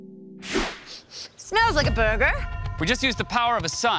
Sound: sniffs

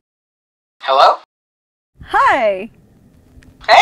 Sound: voiceover

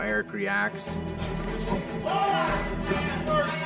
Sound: cheering

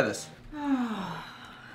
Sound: sigh

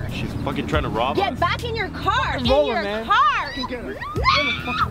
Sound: she screams

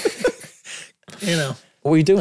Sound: group laughing

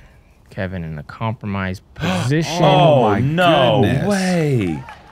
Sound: gasps

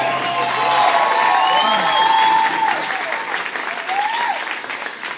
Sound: applause

